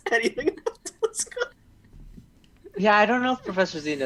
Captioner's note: more laughter